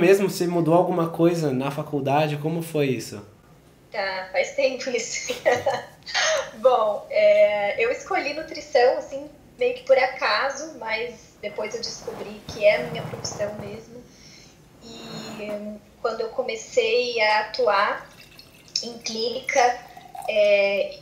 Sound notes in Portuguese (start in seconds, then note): 5.0 risos